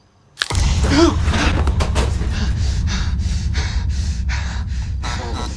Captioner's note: bone cracks. GUARD gasps, breathes hard and shallow; electricity crackles, turns back on